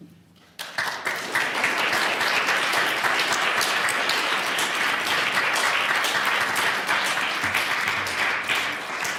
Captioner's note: applause